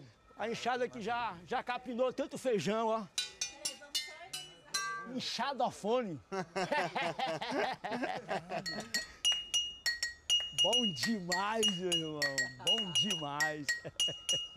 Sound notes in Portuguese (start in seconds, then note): 3.2 tilintando; 6.2 ambos riem; 13.8 risada